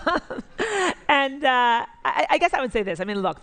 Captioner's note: laughs